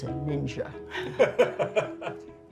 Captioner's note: laughter